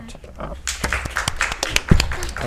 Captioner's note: audience applauds